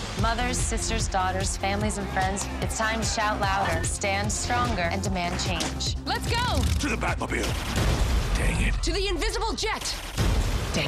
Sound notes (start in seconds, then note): 7.4 explosion; 10.1 explosion